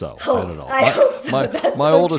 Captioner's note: laugh